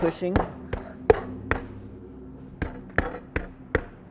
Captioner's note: meat mallet banging